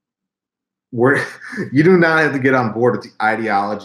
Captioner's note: laughs